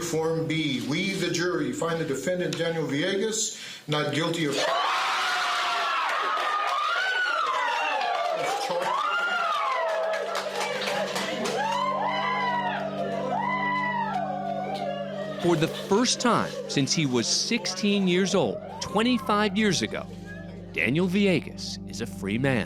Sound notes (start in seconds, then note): 5.6 applause